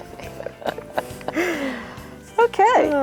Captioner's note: laughing